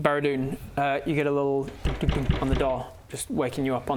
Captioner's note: bang bang bang